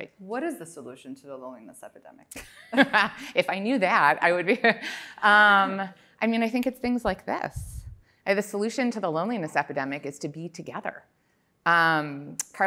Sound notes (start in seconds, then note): 3.4 laughs